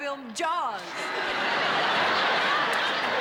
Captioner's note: laughter